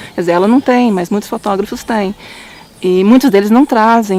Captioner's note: Vietnamese